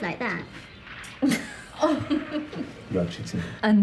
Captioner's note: Diana laughing